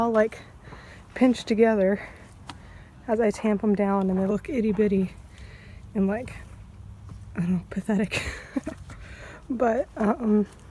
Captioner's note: laughs